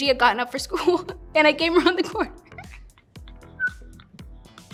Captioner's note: laughs